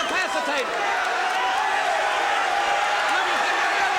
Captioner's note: crowd cheering